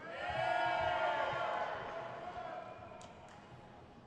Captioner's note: audience cheers